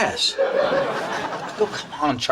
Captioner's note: audience laughs